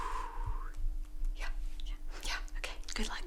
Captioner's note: exhales